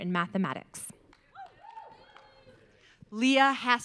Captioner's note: audience cheering